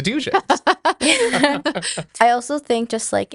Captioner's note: laughing